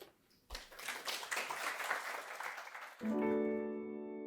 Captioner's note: audience applauding; soft piano music